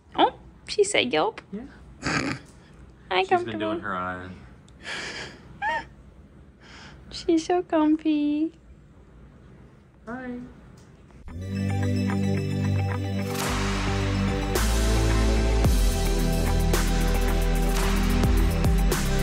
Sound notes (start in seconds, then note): 2.0 laughing; 5.5 laughing; 11.3 upbeat rhythmic music